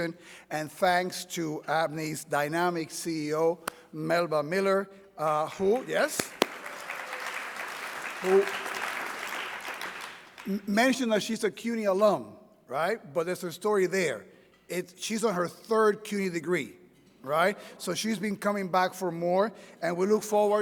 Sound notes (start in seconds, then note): 5.5 people applauding